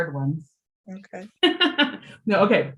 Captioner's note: laughing